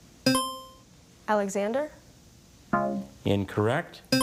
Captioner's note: buzzer chimes